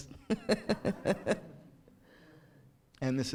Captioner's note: chuckles